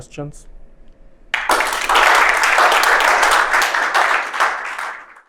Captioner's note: applause